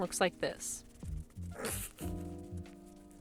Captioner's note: stifled laugh